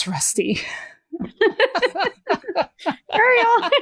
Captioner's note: laughter